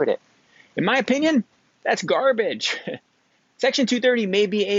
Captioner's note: chuckles